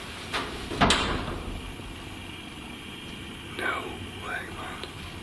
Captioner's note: strange clattering sound